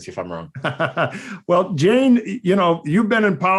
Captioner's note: laughing